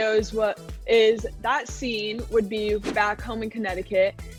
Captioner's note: scene whooshing